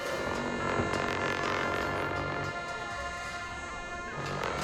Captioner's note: cymbal crashes; horns blowing